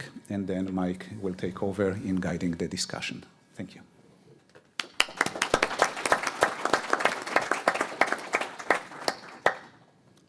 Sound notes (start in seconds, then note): 4.8 attendees applaud